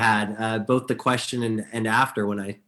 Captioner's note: chuckles